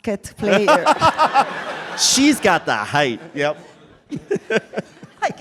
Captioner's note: laughter